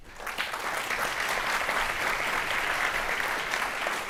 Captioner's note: audience applauding